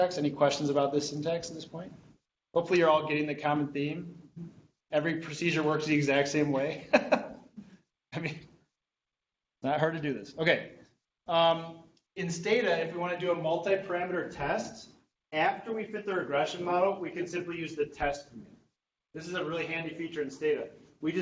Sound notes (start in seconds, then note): 7.5 laughing